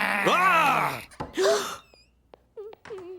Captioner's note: both Gasp!; humming